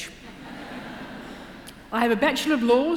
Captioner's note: laughter